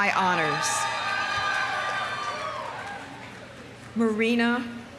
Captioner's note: audience cheering; audience applauding